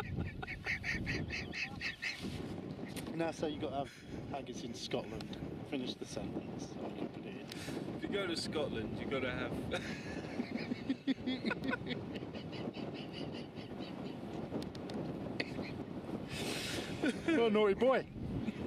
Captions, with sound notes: Now say you've got to have Haggis in Scotland... Finish the sentence... - If you go to Scotland you go to have... (Laughs) - You're a naughty boy...